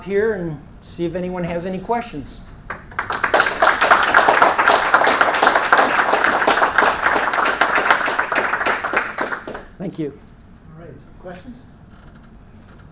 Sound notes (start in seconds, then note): 2.6 applause